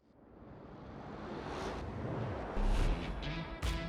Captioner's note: car engine revving; rock music